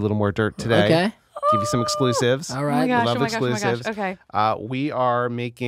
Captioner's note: she exclaims